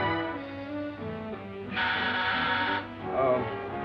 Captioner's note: doorbell buzzes